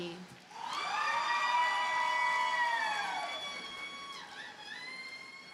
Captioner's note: audience cheers and applauds